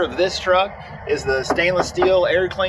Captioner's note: air cleaners thudding